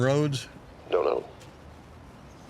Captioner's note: on phone